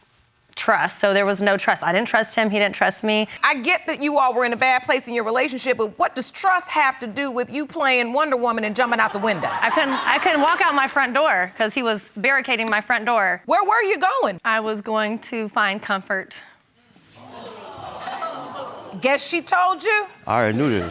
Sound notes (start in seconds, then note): 8.8 audience laughs; 16.3 audience gasps